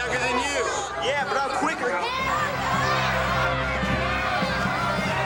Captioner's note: people cheering; spectators cheer; upbeat music